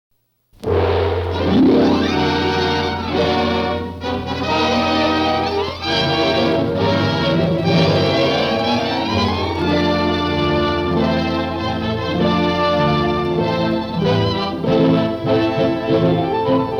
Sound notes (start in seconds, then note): 0.8 gong booms; 1.8 dramatic orchestral music; 10.1 suspenseful orchestral music